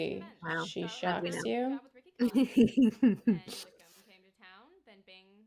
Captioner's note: laughter